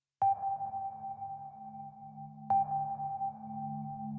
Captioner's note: echoing beeps